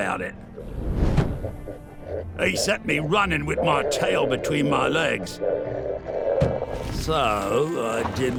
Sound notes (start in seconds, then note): 0.8 scary monstrous yelling; 0.8 warbles; 5.5 angry yells continue